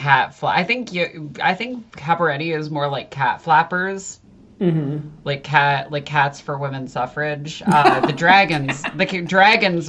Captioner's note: laughs